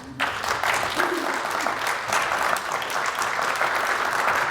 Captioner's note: audience applauds